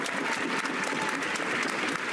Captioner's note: cheers and applause